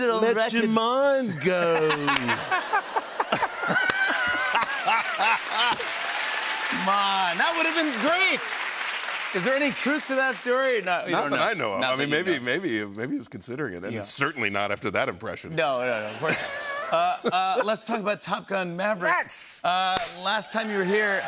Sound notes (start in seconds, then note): 3.3 cheers and applause; 6.3 normal voice